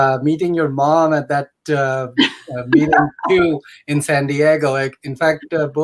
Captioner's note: laughter